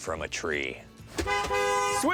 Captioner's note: horn honks